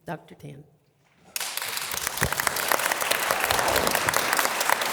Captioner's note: audience applause